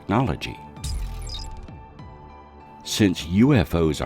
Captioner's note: electronic buzzing